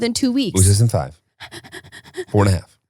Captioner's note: panting